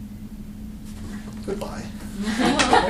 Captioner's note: laughter